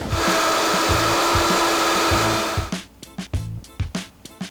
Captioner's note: blender whirring